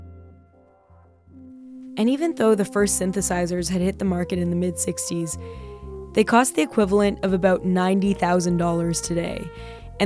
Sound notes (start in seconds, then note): none